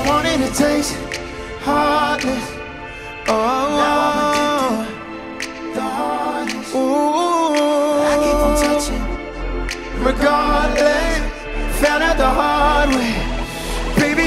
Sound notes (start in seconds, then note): 6.9 ooh